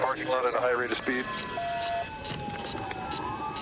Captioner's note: sirens blaring